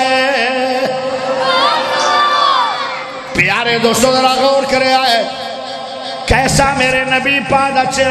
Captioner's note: cheering